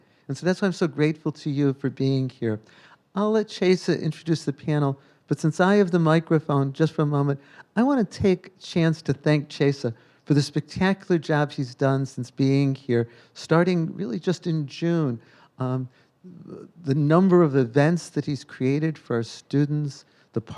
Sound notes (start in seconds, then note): none